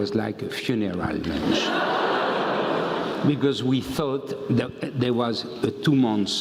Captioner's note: laugh